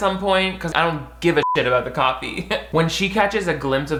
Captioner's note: laughs